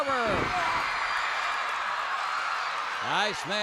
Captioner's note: crowd cheers